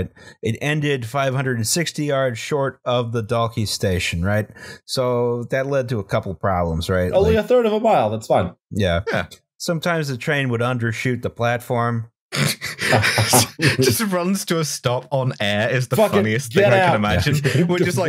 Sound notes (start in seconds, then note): 12.6 laughter